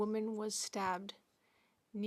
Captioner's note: speaking French